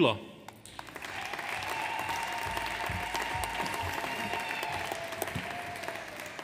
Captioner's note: audience applauds; audience cheers